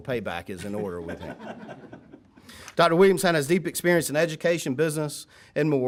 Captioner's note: laughter